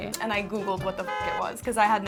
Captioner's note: horn blaring